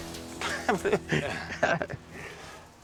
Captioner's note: laughs